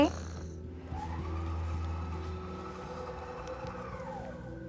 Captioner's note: hoist whirrs